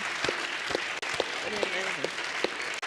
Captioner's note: applause